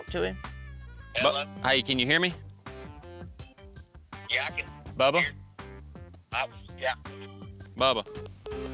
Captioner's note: cell phone breaking up; cell phone breaks up, beeps